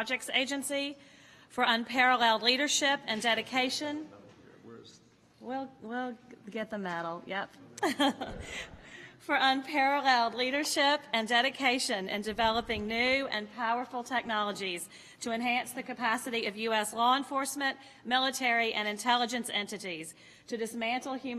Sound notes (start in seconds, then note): 7.8 laughter